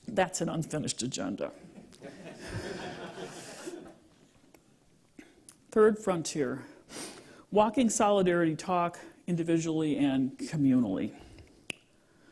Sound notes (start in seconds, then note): 1.7 laughter